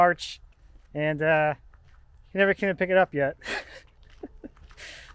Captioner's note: laughs